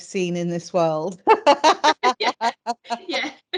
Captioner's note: both laughing